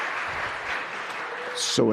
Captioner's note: applause